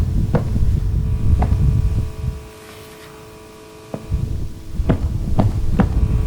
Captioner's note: footsteps